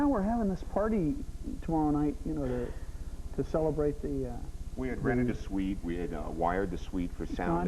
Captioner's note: audience reacts